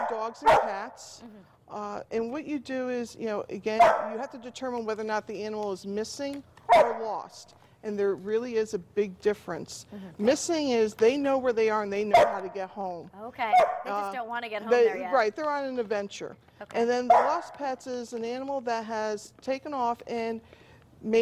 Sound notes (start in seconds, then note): 12.1 dog barking; 17.0 dog barkin